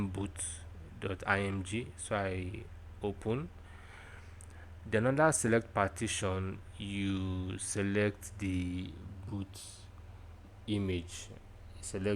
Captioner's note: click